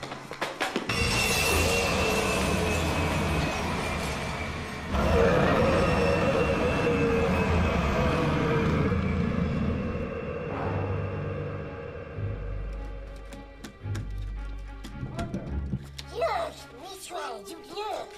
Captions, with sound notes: [glass shattering] - ARTHUR. - HERE, ME TRY. YOU LOOK.